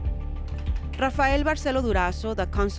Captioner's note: voiceover